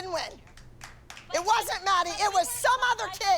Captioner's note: scattered applause